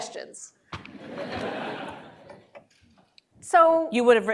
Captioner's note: laughter